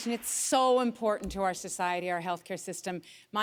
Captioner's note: applause